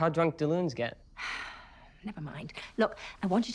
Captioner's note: Prudence sighs